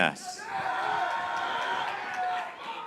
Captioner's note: graduates cheering